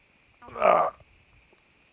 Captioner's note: grunts